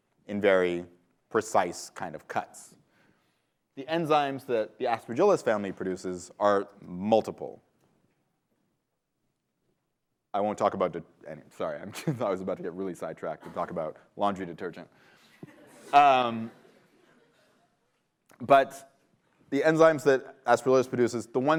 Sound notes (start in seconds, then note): 15.2 laughter